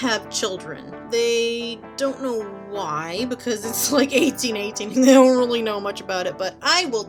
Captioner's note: laughing